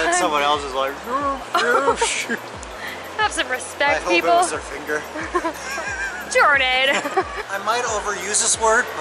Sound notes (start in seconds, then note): 5.2 laughing